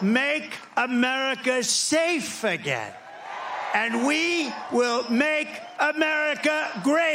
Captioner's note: cheering